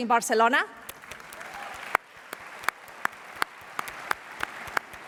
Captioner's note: applause